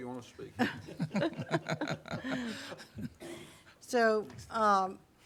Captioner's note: laughing